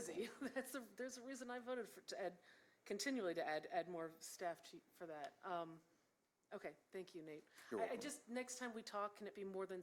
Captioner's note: laughter